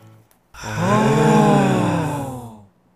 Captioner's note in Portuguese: pessoas admiradas em coro